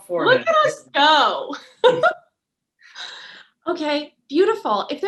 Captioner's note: laughs